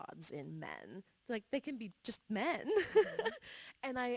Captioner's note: laughs